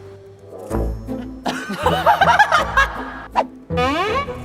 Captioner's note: laughing